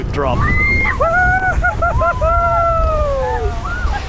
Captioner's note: screaming